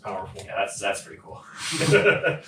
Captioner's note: all laughing